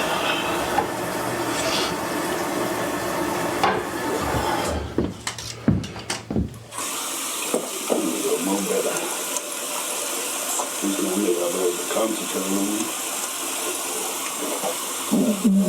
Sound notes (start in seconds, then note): 6.9 water runs; 7.7 faucet drowns out speaker; 15.4 he gags